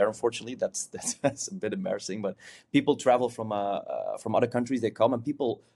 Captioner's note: chuckles